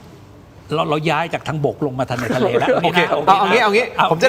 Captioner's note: laughs